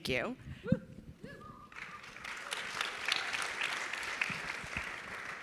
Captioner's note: audience cheering and clapping